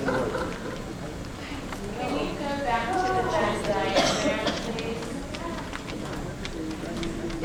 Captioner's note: confused murmuring